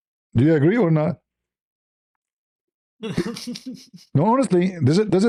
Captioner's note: laughter